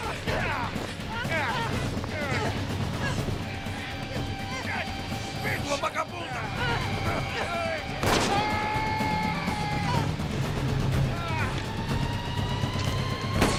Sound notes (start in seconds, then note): 1.0 grunting; 8.0 gunshot; 8.2 screaming